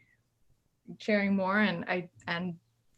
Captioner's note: none